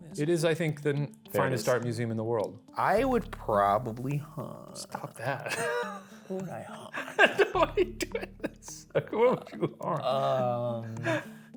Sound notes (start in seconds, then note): 6.6 laughing; 6.6 laughs